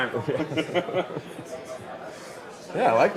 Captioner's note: laughing